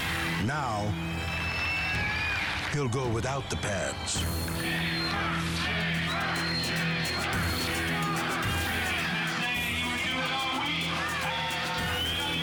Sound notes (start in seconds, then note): 4.7 crowd